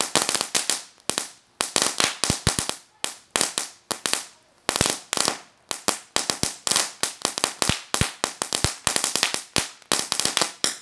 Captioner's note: crackling noise